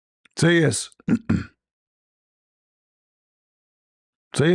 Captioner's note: berdehem